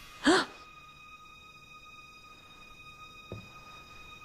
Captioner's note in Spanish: Liana exhala